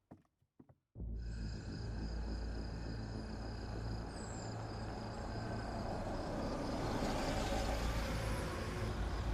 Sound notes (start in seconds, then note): 1.0 ominous music; 1.2 crickets chirping; 4.4 car approaching